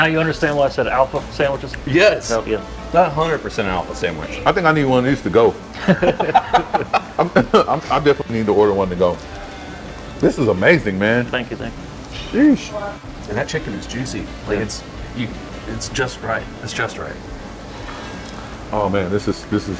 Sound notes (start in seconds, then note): 6.1 laughing